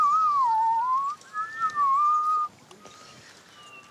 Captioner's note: whistling